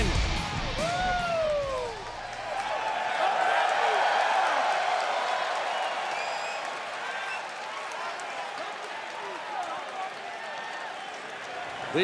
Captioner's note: crowd cheering